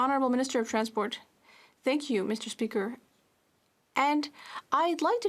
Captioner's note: speaking French